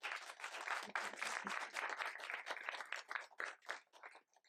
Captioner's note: audience applauding